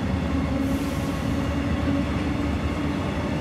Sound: train departing?

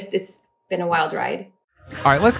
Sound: game audio

